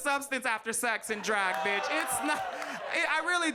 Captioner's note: audience groans